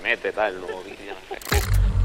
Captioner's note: laughs